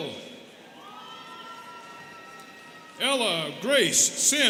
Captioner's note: students cheering